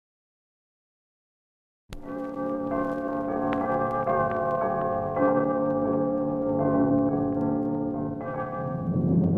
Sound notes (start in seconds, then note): 2.0 bells chiming